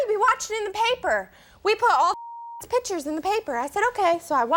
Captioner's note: beep